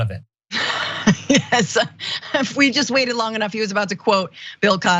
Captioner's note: laugh